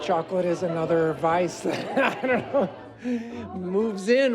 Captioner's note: chuckles